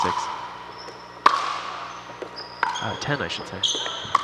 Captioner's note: ball bouncing